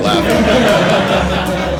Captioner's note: laugh